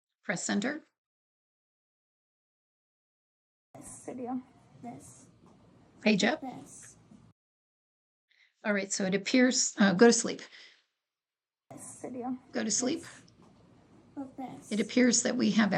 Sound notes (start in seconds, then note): 5.0 child's voice from the video in the background